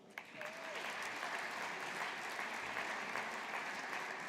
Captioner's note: audience applauding